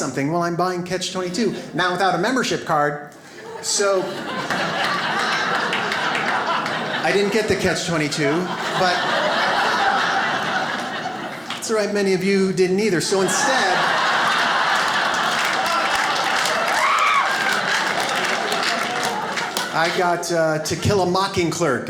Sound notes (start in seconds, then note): 9.1 audience laughs; 12.9 audience laughs